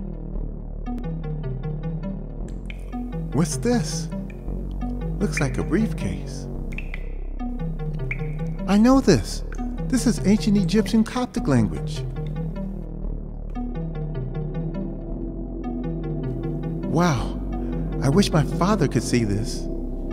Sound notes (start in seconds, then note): 14.2 humming